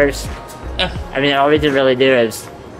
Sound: laughs

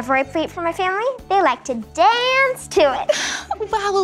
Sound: girls giggle

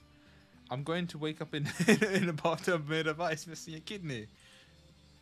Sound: laughs

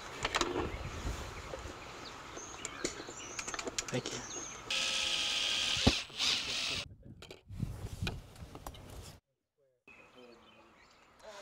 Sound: drill whirring, snap of post cap on post, drill whirring, no additional audio

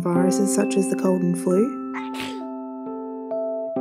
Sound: sneeze

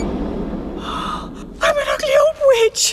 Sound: sigh

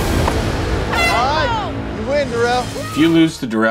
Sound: horn blows

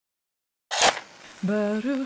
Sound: match strikes; singing blessing

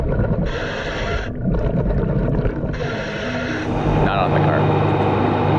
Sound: scuba breathing; water bubbling

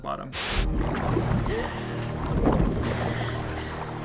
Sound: woman gasping

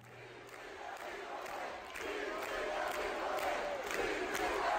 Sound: crowd chanting

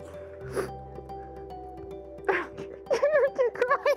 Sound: instrumental music playing; crying

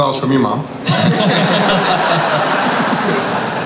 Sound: everybody laughs

